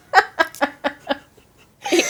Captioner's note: laughing